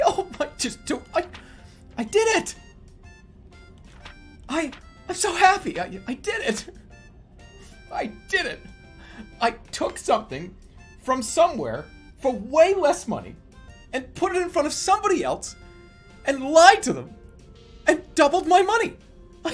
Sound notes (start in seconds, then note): 7.9 triumphant voice